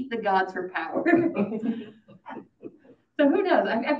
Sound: audience laughing

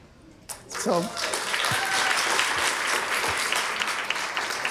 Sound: audience applauding

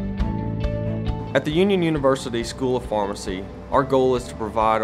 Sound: voiceover

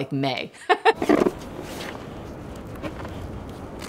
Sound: laughing

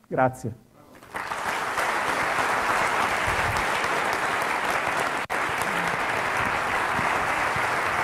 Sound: applause

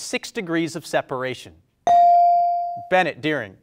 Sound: bell rings

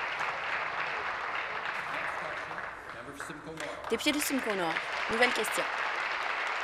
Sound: applause

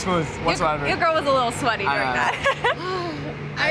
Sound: laughs

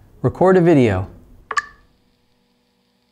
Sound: phone clicks

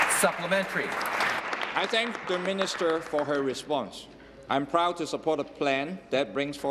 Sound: applause

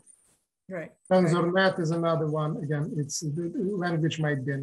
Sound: ukrainian

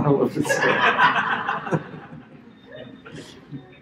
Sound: laughter

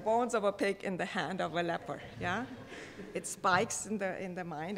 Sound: audience light laughing

